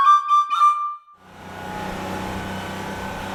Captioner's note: bus engine drones